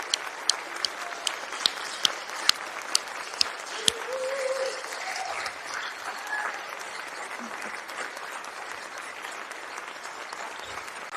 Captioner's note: applause